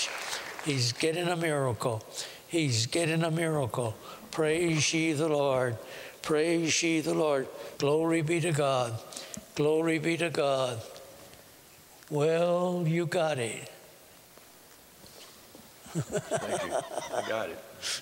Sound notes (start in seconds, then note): 15.8 laughter